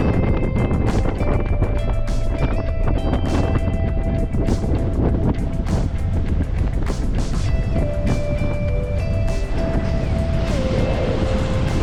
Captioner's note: wind blows